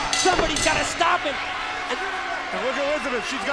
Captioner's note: bell ringing